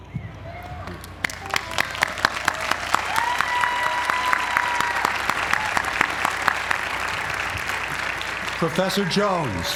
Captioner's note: applause